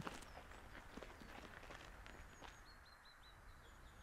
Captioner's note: birds singing